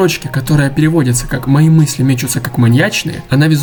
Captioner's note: say in Russian